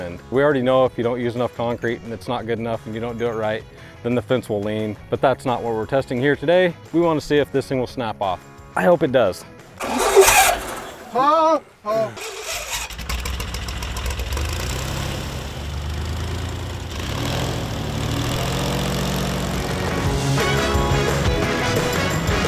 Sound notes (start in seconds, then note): 9.8 airboat engine roaring; 12.1 airboat motor roaring; 19.5 upbeat music